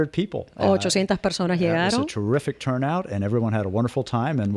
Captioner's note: Hablando ingl\s